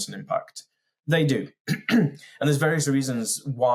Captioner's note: clears throat